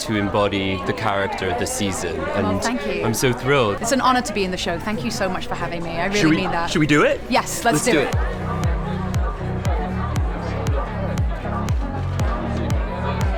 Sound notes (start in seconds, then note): 9.5 crowd chattering; 10.7 upbeat music